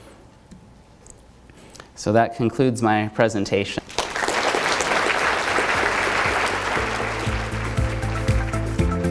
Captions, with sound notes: So that concludes my presentation. (audience applauds) (upbeat music)